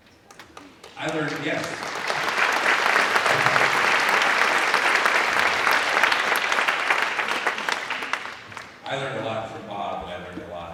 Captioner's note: applause